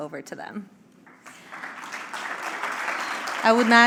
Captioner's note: applause